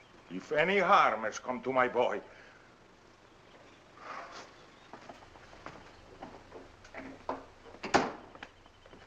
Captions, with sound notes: If any harm has come to my boy... [exhales]